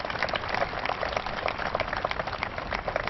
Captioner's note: applause